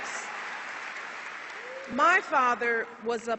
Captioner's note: applause